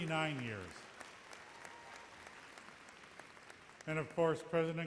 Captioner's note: audience applauds